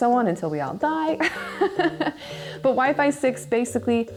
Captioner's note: laughing